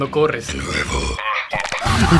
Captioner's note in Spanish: con voz satanica